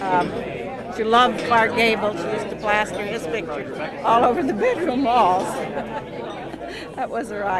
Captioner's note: laughs